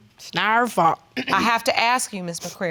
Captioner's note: clearing throat